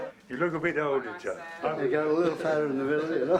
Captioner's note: chuckles